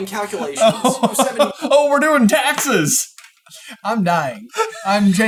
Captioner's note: laughing